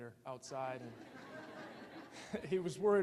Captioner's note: audience laughing